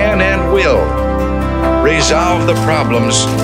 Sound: newspaper rustles; teacups clink

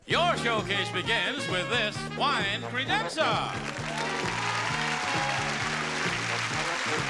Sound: audience cheers

